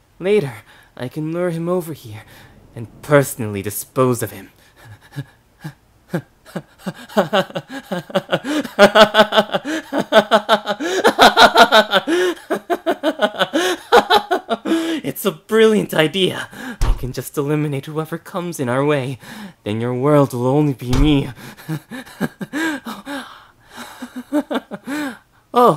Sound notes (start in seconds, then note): 6.0 manic laughter; 16.8 slam; 21.2 laughter